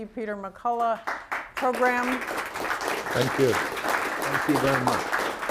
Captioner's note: applause